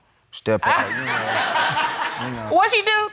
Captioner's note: laughter